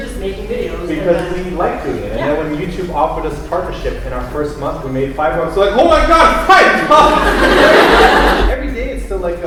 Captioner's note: laughter